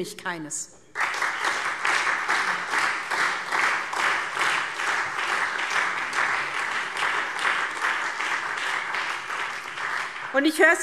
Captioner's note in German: Beifall SPD und Freie Demokraten